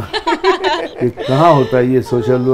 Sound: laughs

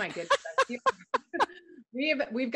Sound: laughter

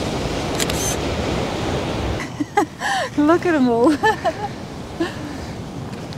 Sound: laughing

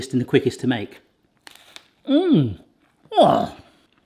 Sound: munching

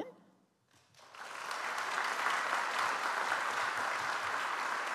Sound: audience applauds

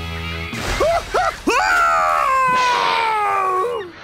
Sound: screaming

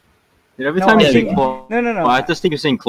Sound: glitch

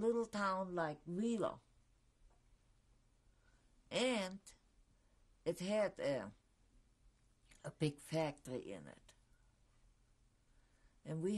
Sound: pauses for 3 seconds

